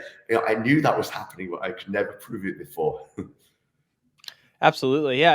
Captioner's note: chuckles